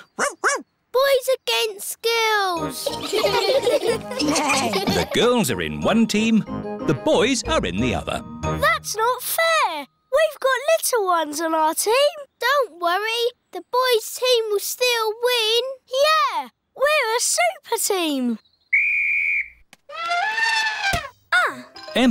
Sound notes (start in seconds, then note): 0.1 barks; 2.8 all giggling; 18.7 blows whistle; 20.2 trumpets